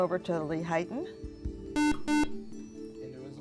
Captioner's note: buzzer